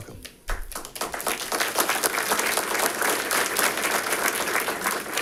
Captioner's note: audience applauding